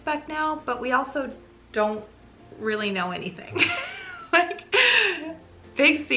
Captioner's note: laughs